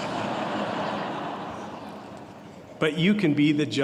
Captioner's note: laughter